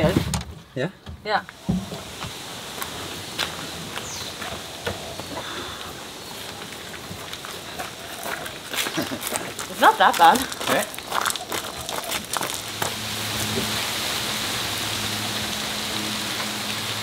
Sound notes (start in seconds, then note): 2.2 birds chirping; 2.2 leaves rustling; 8.8 chuckling; 9.2 footsteps crunching; 14.0 leaves rustling